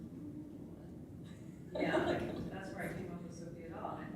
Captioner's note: laughs